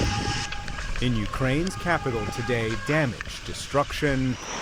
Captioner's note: sirens blaring